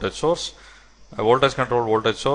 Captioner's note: short circuit